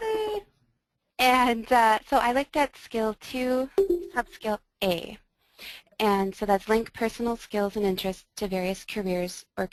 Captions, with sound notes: - [Voiceover] Melody! - [Voiceover] So I looked at Skill 2, Sub Skill a. And so that's link personal skills and interests to various careers or